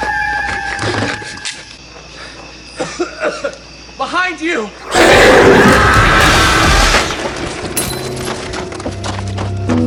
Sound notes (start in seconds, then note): 2.7 coughs and wheezes